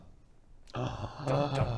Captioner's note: gasp